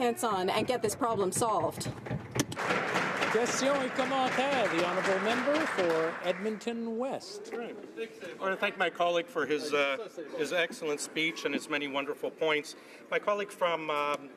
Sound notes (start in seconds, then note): 5.4 some Applause